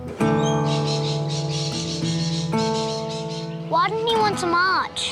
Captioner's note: laid-back music; birds caw